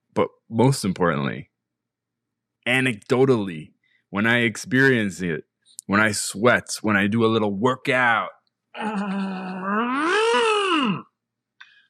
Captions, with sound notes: But, most importantly... Anecdotally, when I experience it, when I sweat, when I do a little workout. (Exertion noise)